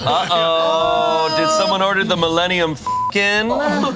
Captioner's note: beep